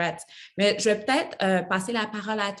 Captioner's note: speaks French